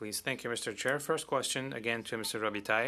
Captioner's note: speaking French